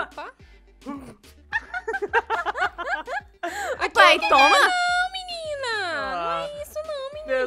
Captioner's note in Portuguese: riem